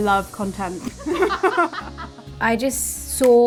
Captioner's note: laughs